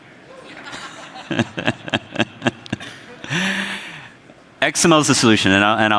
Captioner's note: scattered applause; crowd members laugh; laughs